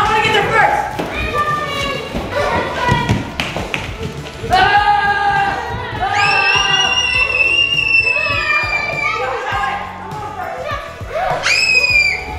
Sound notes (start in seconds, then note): 1.8 overlapping chatter; 6.1 screams